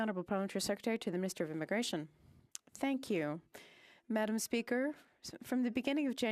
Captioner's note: speaking French